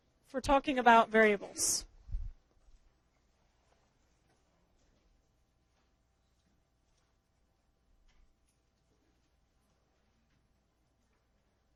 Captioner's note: long pause